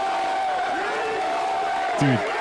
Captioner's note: cheering